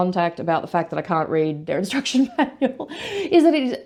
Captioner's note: laughs